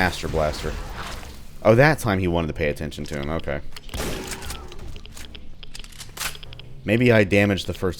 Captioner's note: boom